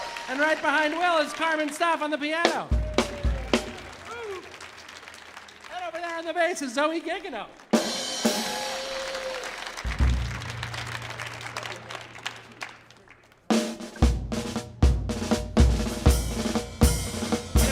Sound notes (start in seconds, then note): 0.0 audience cheering; 0.0 cymbal banging; 2.8 audience applauding; 8.4 audience applauding; 8.4 audience cheering; 13.5 energetic drum music